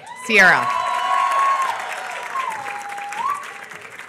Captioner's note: applause